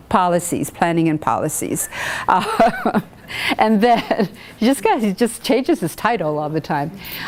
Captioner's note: laughing